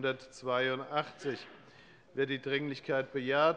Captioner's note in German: Lachen